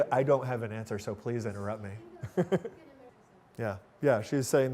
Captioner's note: laughing